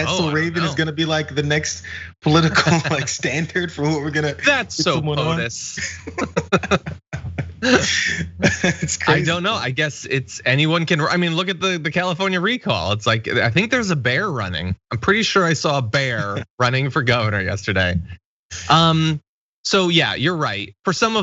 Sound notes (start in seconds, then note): 6.3 laugh